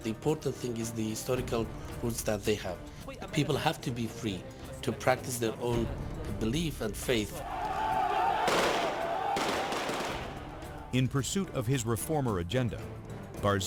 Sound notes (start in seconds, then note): 7.3 people scream; 8.4 guns fire